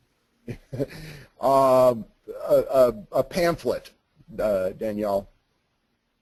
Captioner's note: laughs